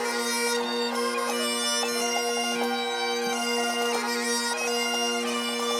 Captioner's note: none